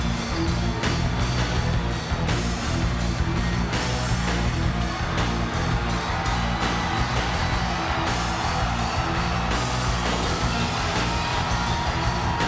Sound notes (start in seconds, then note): 5.5 audience cheers; 8.8 upbeat music continues